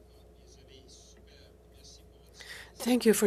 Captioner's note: speaking French